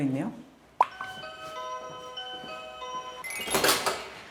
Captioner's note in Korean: 띵동